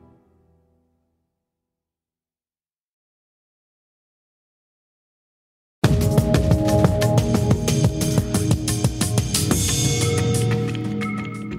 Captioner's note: silence